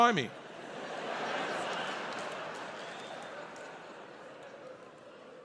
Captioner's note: audience laughs